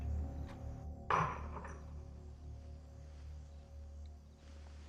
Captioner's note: vase clatters